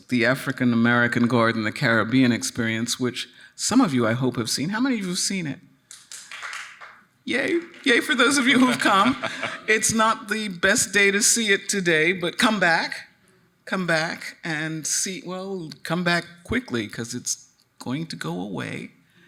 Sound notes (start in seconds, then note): 5.9 audience clapping; 8.6 chuckling